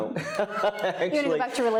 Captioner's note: panelists chuckling